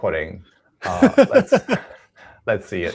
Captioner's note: laughs